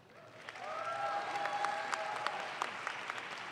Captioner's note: audience claps